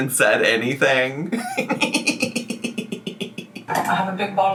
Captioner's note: laughs